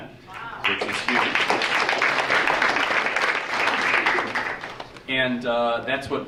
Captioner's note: audience applauding